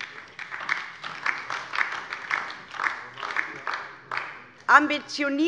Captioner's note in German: Beifall DIE LINKE